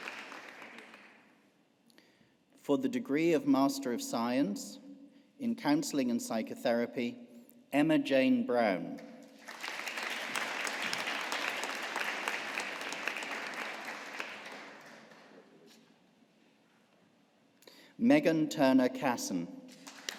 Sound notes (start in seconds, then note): 9.4 audience applauding; 19.8 audience applauding